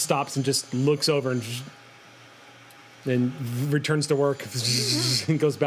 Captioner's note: buzzes; buzzing